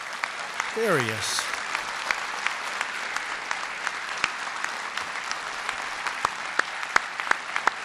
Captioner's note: applause